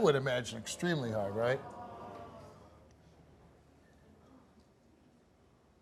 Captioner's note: audience groans